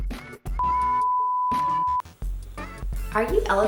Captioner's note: bright music; loud beeping